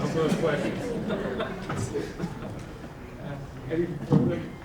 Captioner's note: audience laughing